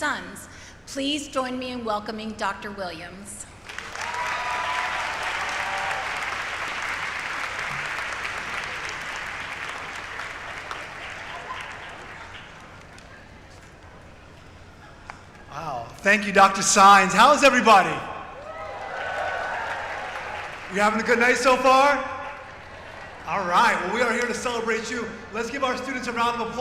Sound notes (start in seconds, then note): 9.6 applause; 10.8 cheering